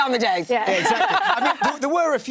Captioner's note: laughing